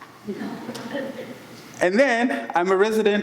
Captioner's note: audience laughs